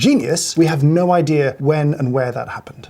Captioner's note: ominous typing